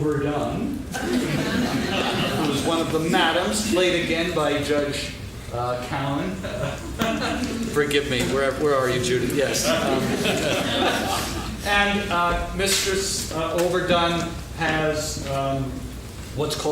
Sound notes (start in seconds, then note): 0.9 laughing; 6.3 laughing; 9.6 laughing